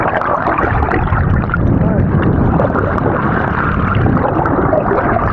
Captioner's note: bubbles gurgling